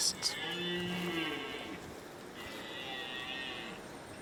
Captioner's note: deer bleating